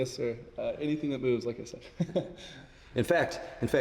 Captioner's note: chuckles